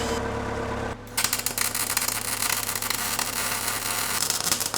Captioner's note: metal sizzling